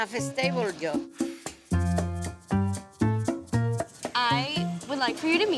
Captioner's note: exhales